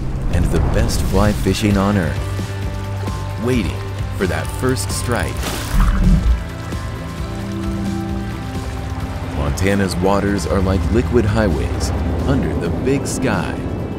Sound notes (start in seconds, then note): 6.1 water runs